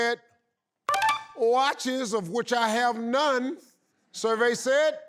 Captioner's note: tinkling